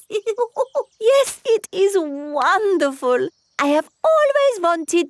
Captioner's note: laughs